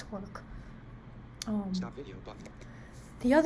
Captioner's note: computer talking: "stop video button"